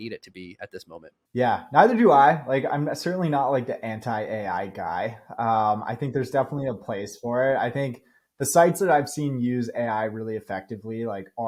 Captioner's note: speaking